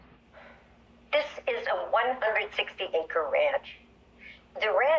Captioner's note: on voice record